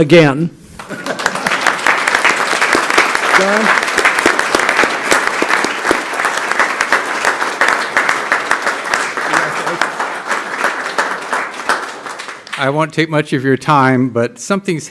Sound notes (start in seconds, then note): 0.8 applause